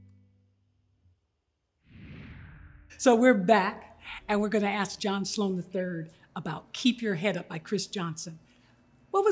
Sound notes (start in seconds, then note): 1.8 air whooshing